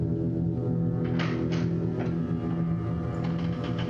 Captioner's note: door opens